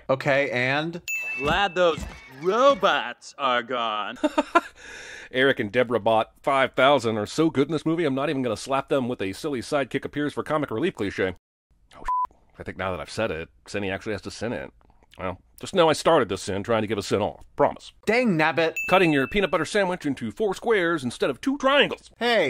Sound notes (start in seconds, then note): 4.1 laughs